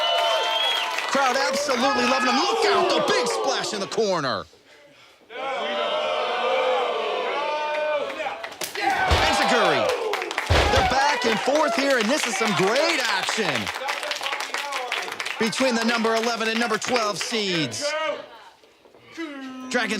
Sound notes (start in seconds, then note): 5.5 audience booing